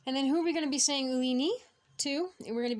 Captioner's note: speaking Abenaki